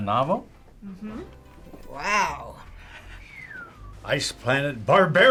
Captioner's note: whistles